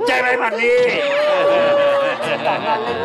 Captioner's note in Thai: ร้องไห้